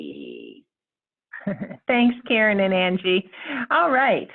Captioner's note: chuckles